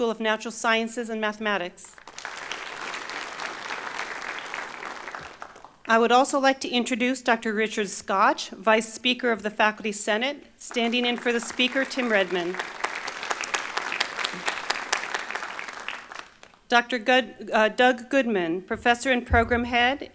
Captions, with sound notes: School of Natural Sciences and Mathematics. (Applause) I would also like to introduce, Dr. Richard Scotch, Vice Speaker of the Faculty Senate, standing in for the Speaker, Tim Redman. (Applause) Dr. Doug Goodman, Professor and Program Head,